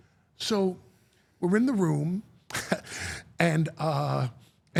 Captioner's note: chuckles